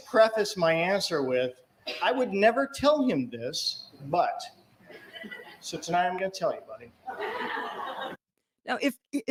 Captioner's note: laughter